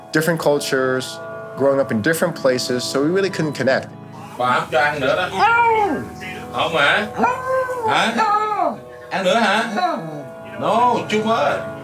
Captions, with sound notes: Different cultures, growing up in different places. So we really couldn't connect. (speaking in a foreign language) (dog howls) (speaking in a foreign language)